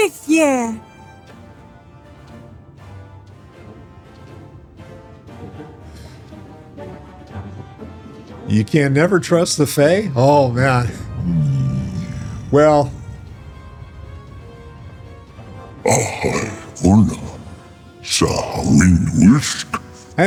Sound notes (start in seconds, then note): 0.0 speaking in foreign language; 10.0 growling; 17.5 speaking in foreign language